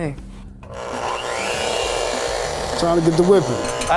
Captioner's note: whisk buzzes